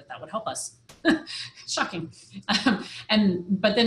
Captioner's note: laughs